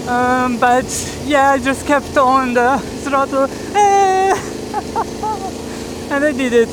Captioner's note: badly imitated engine sound